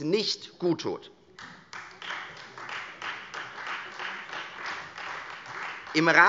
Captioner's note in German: Beifall Freie Demokraten